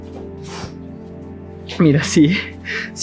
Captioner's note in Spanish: resoplido